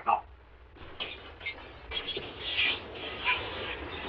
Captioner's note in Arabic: تحطيم الزجاج